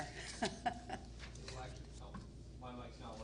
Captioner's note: laughing